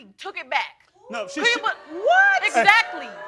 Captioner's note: crowd oohing